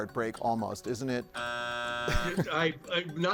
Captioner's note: buzzer sounds; chuckles